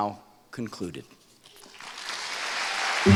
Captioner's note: applause